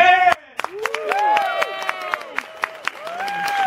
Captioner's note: applauding